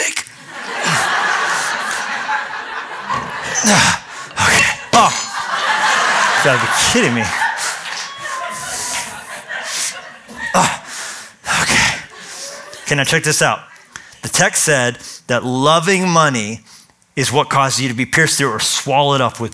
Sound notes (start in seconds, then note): 0.2 laughter; 7.3 grunting